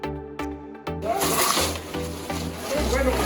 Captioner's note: upbeat music; crashing sounds